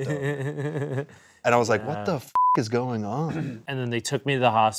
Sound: beep

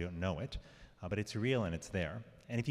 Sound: none

